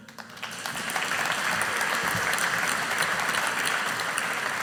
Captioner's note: audience applauding